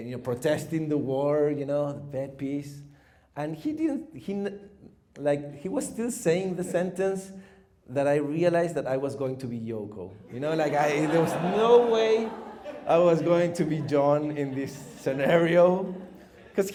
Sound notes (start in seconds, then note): 10.3 audience laughs